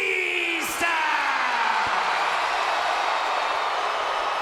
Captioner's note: audience cheers